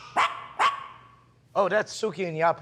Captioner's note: dogs barking